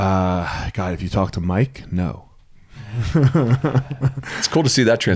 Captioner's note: laughs